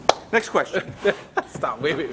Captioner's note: laughs